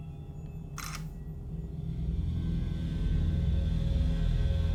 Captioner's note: camera snaps